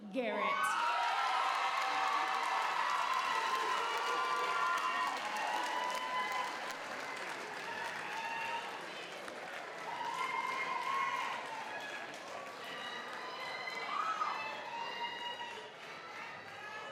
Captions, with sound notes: Unique Garrett. (audience applauds) (audience cheers)